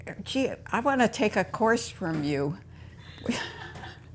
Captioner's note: laughter